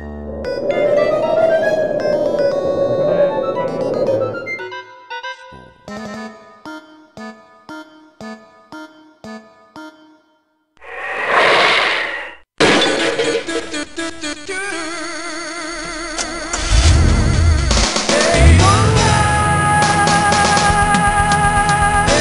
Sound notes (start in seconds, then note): 0.0 wind blowing; 5.1 quietly; 10.8 wind rushing; 12.6 crash; 16.5 engine revving; 18.1 car driving away